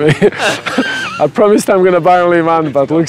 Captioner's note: laughs